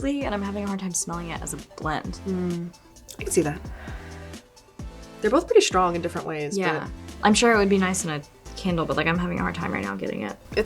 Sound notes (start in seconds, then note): 3.6 exhaling